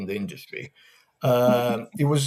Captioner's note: chuckles